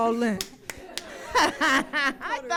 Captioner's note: audience laughing